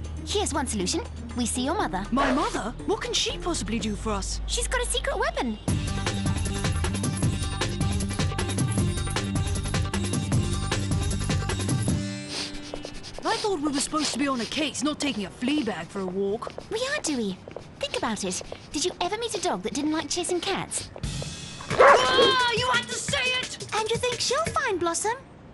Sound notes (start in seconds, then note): 0.0 dark barking; 0.0 cat hissing; 5.8 indian music playing; 11.9 dog sniffing; 21.7 dog barking